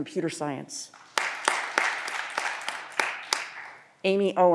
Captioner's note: audience applause